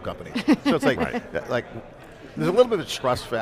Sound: chuckles

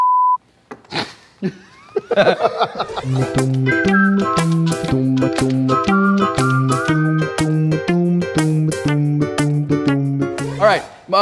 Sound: laughter

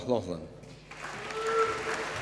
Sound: applause

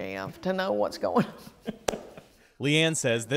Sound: laughter

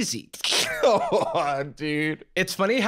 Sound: laughs

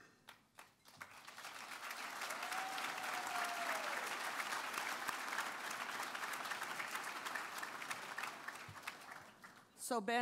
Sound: applause

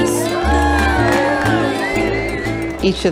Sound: cheering and applause

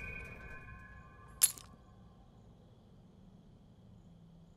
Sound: keys dropping

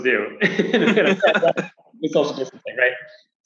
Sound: laughs

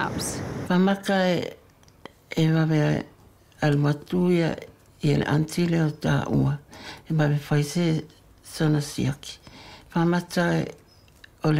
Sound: non-english speech

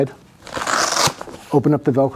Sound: velcro ripping quickly

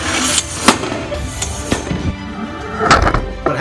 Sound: crashes

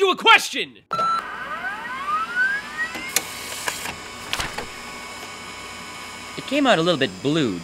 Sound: copy machine beeps, whirrs

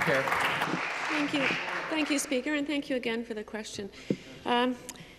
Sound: applause

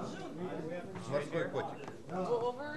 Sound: russian speech

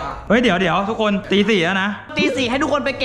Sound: pat

